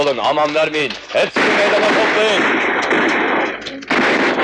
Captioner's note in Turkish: Silah sesleri